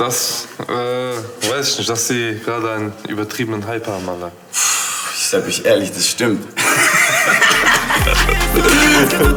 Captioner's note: laughing